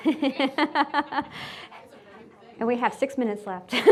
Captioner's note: laughing